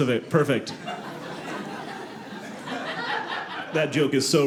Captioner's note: audience laughing